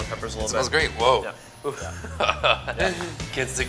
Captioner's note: laughter